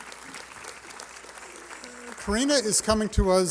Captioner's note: applause